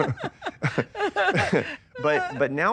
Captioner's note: laughter